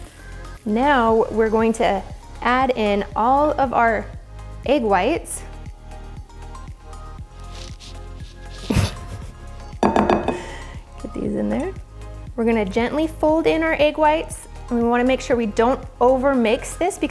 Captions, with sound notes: Now we're going to add in all of our egg whites. (upbeat music continues) (laughs) Put these in there. We're going to gently fold in our egg whites. And we want to make sure we don't over mix this